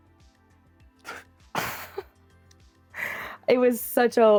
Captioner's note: both laugh